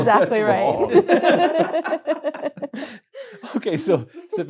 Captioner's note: laughter